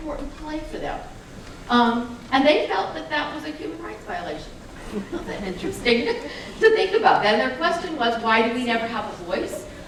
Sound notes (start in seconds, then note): 4.8 laughter